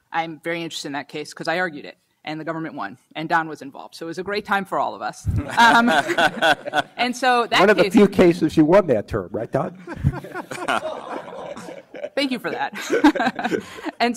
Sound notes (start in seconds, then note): 5.4 panelists laugh; 5.4 audience laughs; 9.7 panelists laughs; 9.8 audience laughs; 13.5 laughs